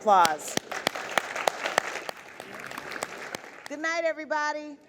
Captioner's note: audience applause